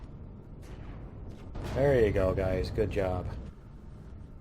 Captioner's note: explosion